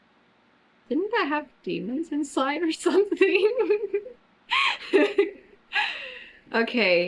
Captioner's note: laughs